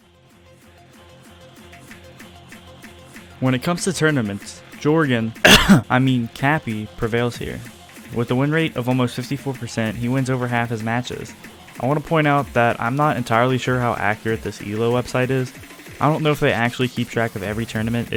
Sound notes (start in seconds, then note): 5.4 cough